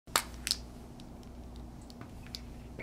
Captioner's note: popping